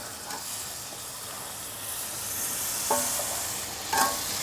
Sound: butter sizzling

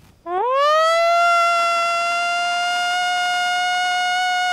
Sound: howling

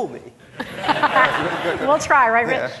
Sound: laughing

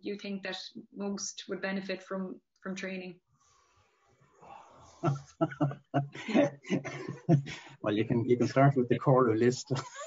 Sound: laughter

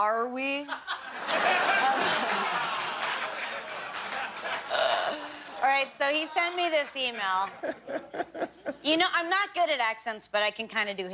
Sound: laughter

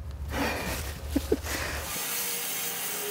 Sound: chuckles; saw blade humming

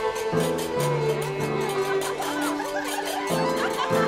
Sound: women talking, laughing

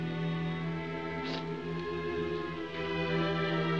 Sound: sniffles

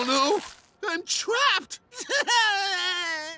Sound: sobbing

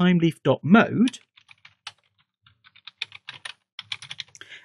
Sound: typing

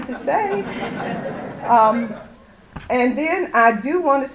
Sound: audience laughter

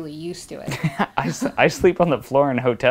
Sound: laughing

